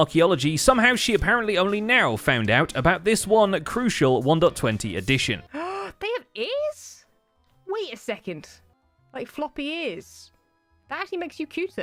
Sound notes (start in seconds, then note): 5.9 gasps